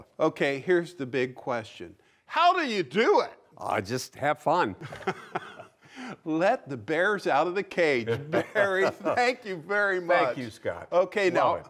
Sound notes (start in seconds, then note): 4.8 laughs